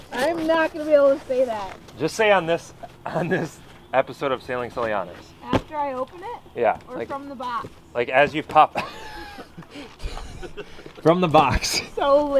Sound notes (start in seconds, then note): 9.6 wheezes